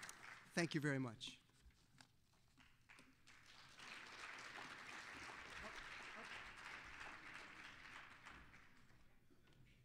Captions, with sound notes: THANK YOU VERY MUCH. (applause)